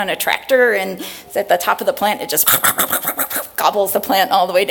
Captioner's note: chomping sound